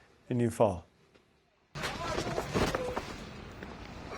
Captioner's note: straining sound